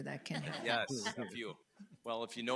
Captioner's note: board laughs